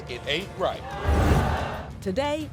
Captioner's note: crowd boos